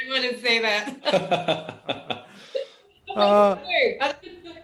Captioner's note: laughing